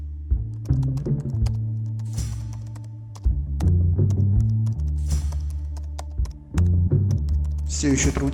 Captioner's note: the sound of laptop keys